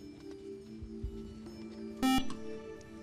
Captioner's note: beep